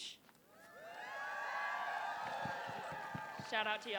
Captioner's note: applause